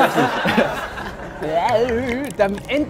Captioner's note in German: Gelächter